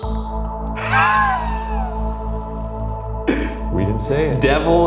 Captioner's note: laughs